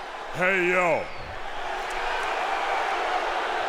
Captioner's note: crowd boos